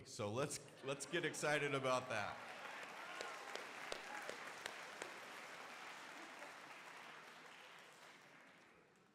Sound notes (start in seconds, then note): 1.0 crowd applauding